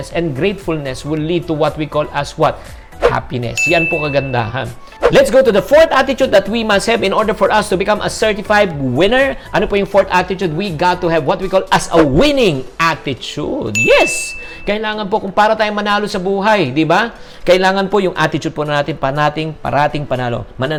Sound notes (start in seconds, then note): 3.5 chime; 13.7 chime